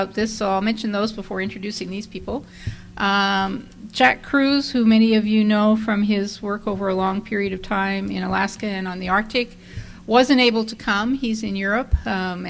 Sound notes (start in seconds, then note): none